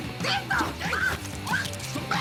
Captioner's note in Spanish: Gritos